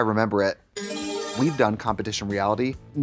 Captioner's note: bright chime